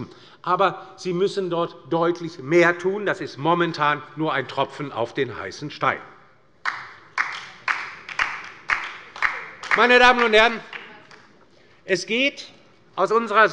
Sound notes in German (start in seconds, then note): 6.6 Beifall bei der LINKEN